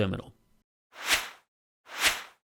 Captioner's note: air swishing